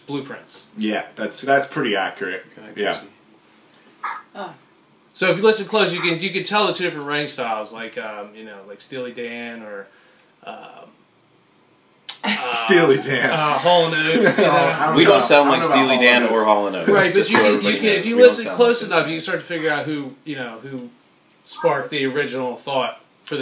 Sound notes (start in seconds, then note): 10.7 laughs